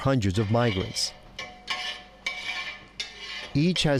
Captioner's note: metal clinking